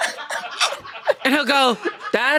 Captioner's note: everyone laughs